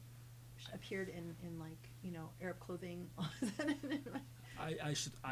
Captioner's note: laughs